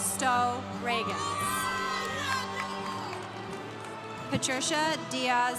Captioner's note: congregation cheering